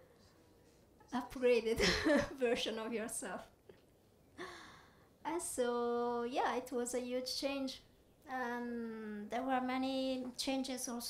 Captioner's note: laughs